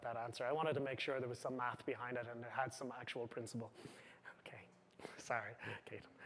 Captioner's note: chuckles